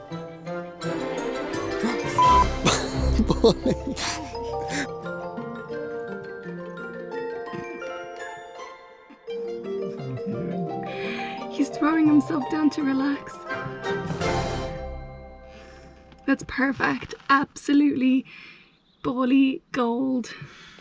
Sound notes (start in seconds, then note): 2.1 beep